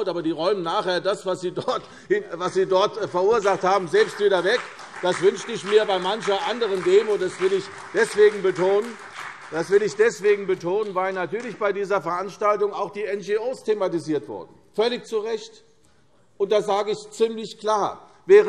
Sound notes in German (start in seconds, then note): 7.8 Beifall CDU und BÜNDNIS 90/DIE GRÜNEN